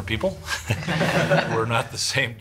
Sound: students laugh

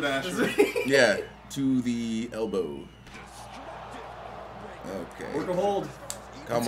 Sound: laugh

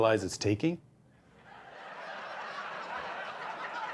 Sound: laughter

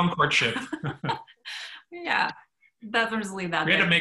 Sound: laughs

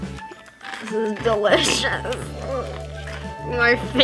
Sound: croutons crunching; groans

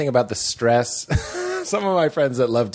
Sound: laughter

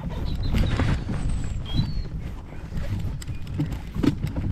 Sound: birds chirping

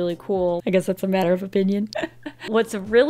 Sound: chuckles

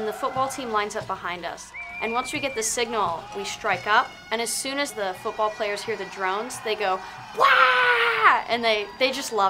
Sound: yelling

